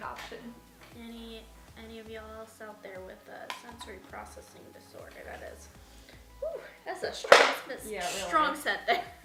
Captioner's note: crash